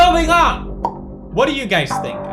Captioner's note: pop